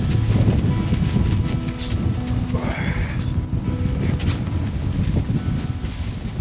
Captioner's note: string music continues; wind pattering camera